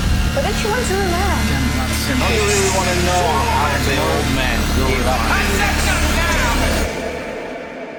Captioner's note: chaotic chatter